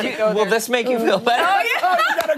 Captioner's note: laughter